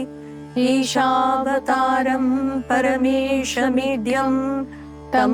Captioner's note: chanting